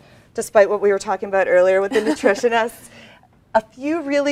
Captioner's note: laughs